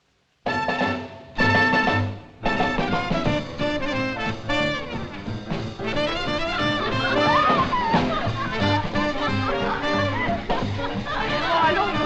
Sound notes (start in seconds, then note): 2.0 jazz; 6.0 laughing, Chattering